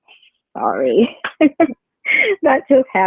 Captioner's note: chuckles